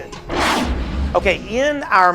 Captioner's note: whoosh